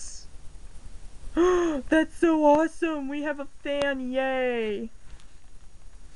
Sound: gasp

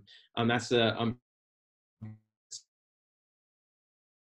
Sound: audio fades out

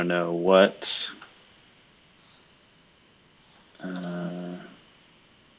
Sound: computer keyboard clicking

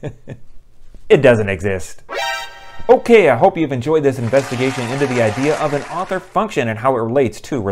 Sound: applause

